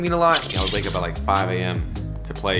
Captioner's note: rewind sounds